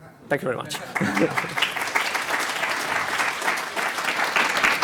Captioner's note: applause